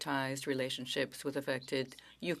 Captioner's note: speaking French